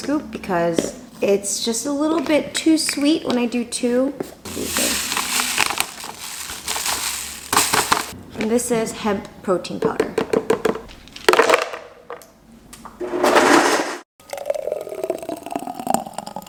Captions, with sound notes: because it's just a little bit too sweet when I do two. (chia seeds rustling) And this is hemp protein powder. (ice thuds)